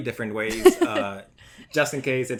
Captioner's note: laughs